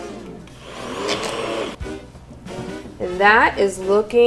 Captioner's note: blender whirring